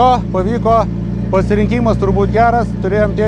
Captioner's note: car